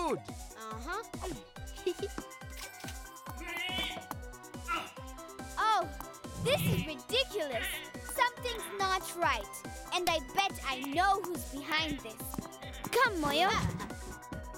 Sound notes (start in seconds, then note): 2.7 angry grumbling